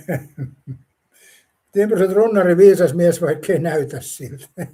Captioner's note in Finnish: naurua